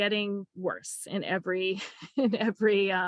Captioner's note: laughing